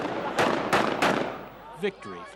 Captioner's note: gunfire